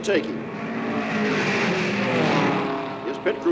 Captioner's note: car engines roar